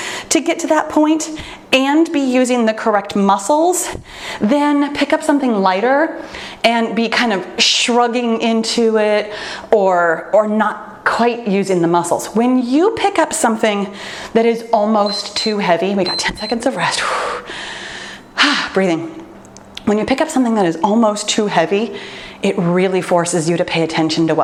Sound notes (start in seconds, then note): 15.0 timer beeps; 17.2 exhales deeply